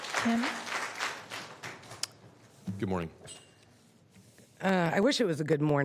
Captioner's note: applause